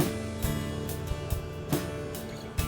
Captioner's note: vehicle idles